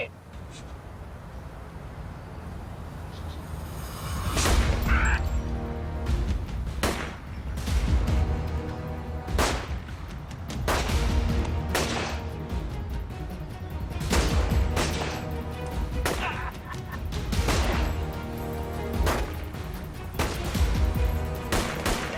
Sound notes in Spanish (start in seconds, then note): 4.3 Disparos; 9.2 Disparos; 14.0 Disparos; 16.1 Risas; 17.6 Disparos